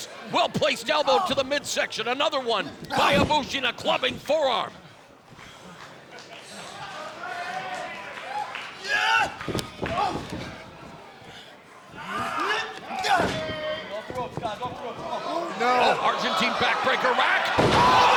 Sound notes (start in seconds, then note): 9.1 shouting; 10.2 wrestlers grunting